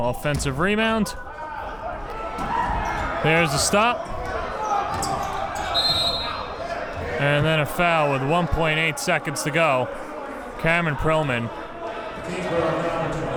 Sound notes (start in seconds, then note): 5.6 whistle blows